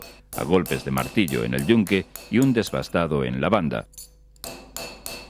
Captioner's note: roughing